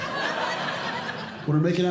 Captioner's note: audience Laughing